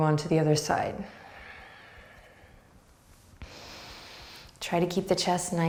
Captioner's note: breathing deeply